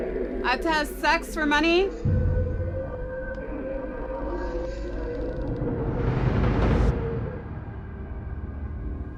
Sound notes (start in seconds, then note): 1.8 distorted speaking